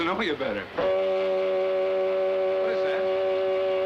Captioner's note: alarm blaring